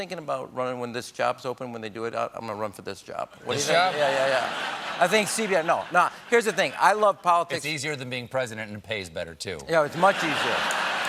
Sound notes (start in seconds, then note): 3.5 laughter; 10.6 applause